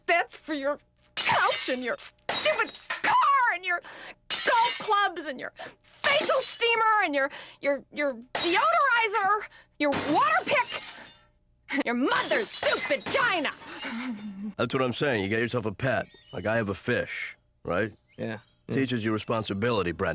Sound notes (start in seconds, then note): 9.9 dishes crashing